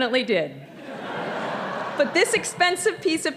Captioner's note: audience laughing